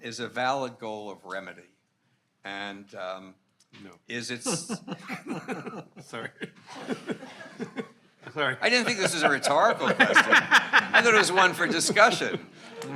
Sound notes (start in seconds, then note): 4.3 attendees laughing